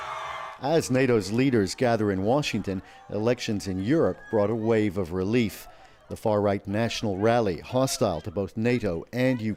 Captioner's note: cheers and Applause